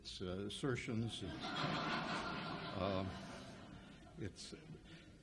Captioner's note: audience laughs